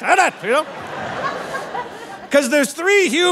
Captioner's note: audience laughing